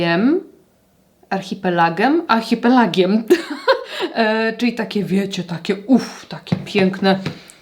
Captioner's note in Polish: śmiech